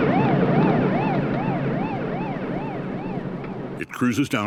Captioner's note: siren grows distant